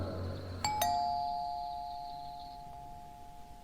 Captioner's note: door bell